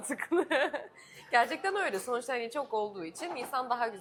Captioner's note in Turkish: kahkaha